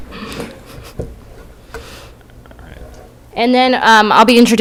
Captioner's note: laughter